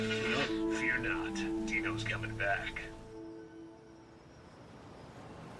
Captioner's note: radio Announcer